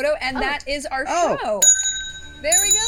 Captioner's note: bell ringing